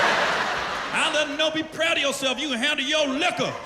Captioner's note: laughter